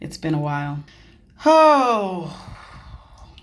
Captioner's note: exhaling